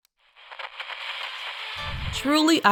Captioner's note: radio crackles